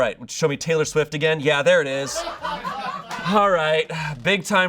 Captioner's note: audience laughing